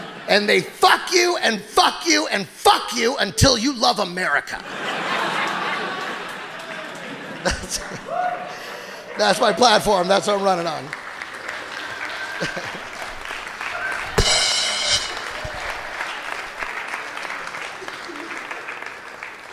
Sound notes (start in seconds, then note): 0.0 audience laughing; 4.5 audience laughing; 14.1 cymbal clanks; 14.8 audience applauding